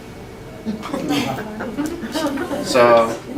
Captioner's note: chatter